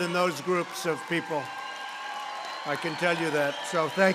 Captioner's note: applause